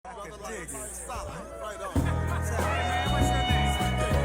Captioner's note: background talking